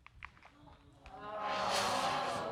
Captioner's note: crowd groans